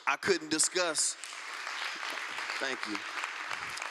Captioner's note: applause